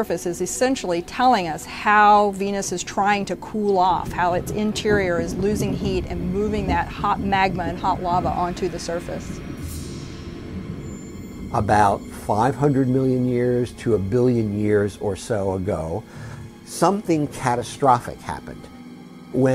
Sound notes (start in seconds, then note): 9.5 eruption rumbling; 9.5 sinister music